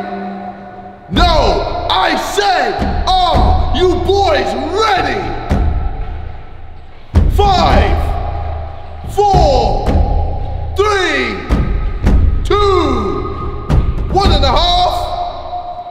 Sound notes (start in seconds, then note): none